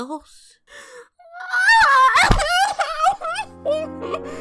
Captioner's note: cries heavily